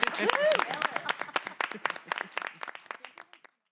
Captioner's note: applause